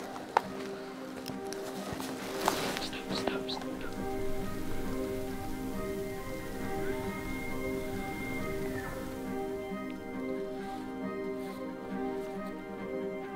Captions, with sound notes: Stop, stop, stop... stop. (Elk bugling)